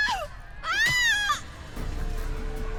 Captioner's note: slap